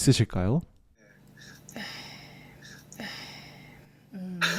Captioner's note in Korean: 깊은 한숨